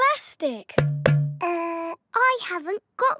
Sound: hollow clunking

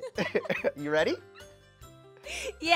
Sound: laughs

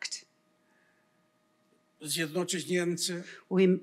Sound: foreign language

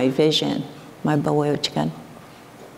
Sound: foreign speaking

